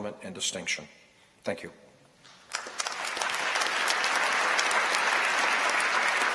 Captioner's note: applause